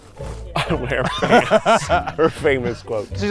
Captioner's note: laughs